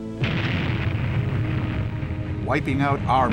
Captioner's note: muffled speaking in foreign language; explosion booms